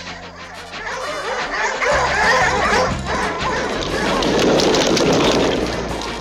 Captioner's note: barking